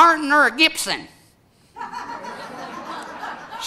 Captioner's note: audience laughing